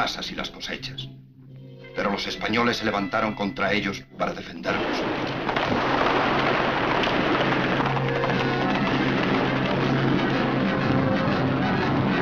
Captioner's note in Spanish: guns firing and people yelling